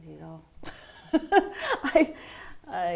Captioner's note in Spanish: risas